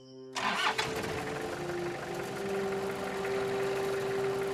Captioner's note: car engine revving